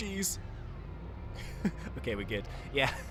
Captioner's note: chuckles